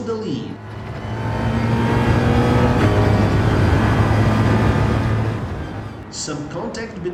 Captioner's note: engines revving, cars noises